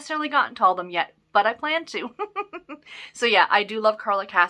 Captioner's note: giggles